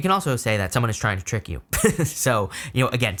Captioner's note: laughs